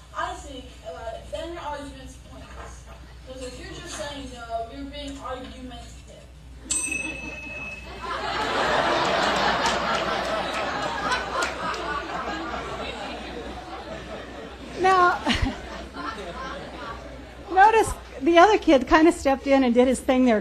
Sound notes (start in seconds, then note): 6.6 bell dings